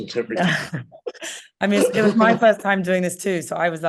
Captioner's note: laughing